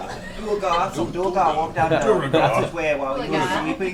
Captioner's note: in odd accent